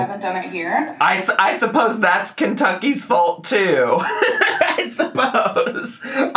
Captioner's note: laughs